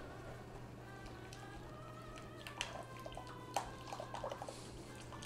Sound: gentle stirring

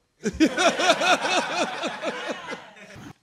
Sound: laughter

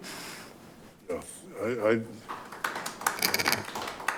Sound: clapping

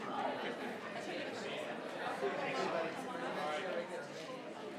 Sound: crowd chattering continues

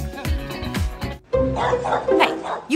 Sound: dog barking

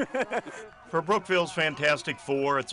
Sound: laughter

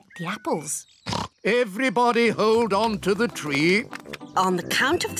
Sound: oinks

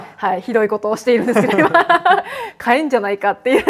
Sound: laughs

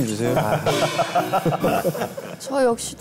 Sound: laughing

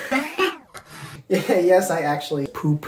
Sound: laugh

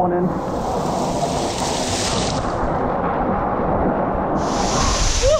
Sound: water rushing

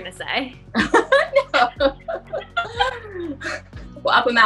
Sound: laughter

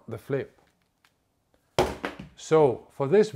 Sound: camera falls with a thud

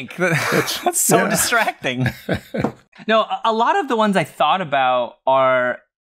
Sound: laughter

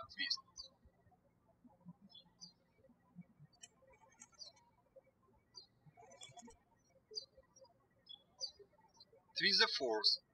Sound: birds chirping

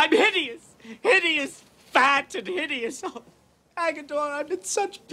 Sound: sobs

